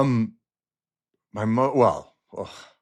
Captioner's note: exhales